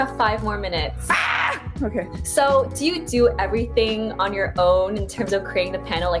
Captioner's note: screams